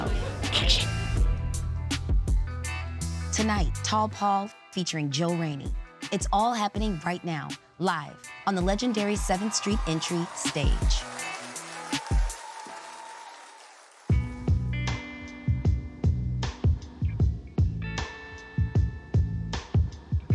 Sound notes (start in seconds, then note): 0.2 slate claps; 11.2 audience cheering; 14.2 mellow hip-hop beats